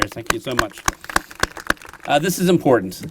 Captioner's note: applause